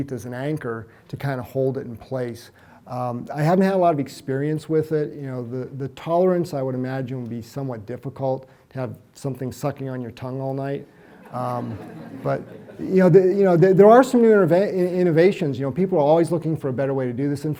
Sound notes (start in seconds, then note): 11.0 audience laughs